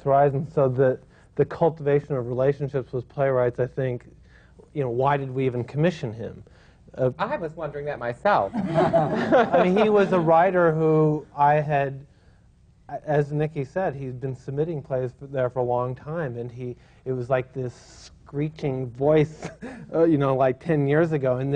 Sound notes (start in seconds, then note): 8.5 laughter